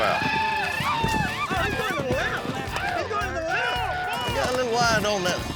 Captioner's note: cheering